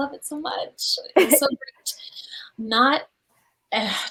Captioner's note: chuckles